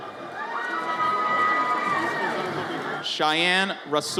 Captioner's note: audience cheers